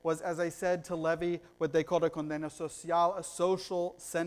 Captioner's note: foreign language